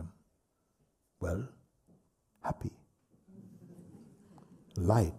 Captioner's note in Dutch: gelach